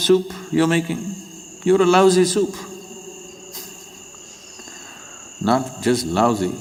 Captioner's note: laughs